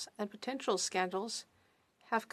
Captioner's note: speaking French